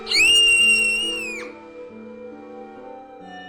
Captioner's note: Saki Screaming